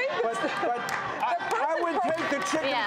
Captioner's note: applause